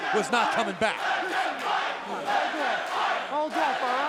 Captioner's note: crowd cheering